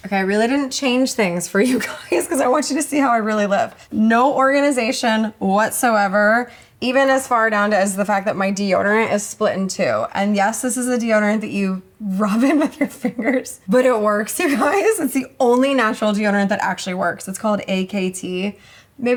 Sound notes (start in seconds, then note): 14.7 chuckles